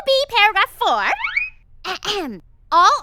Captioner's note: clears throat